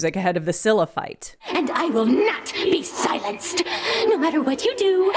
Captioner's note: in a rage